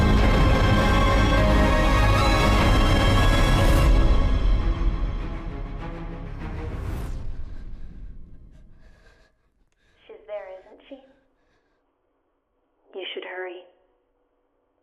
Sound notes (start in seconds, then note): 0.0 sudden ominous music; 0.0 dramatic orchestral music; 7.0 Sammy breathing heavily